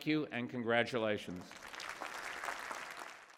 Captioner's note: applause